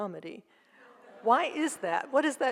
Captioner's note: audience laughs